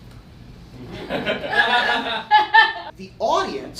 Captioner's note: audience laughter